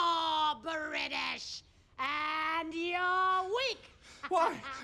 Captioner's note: laughing